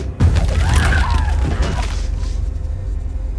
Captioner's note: thudding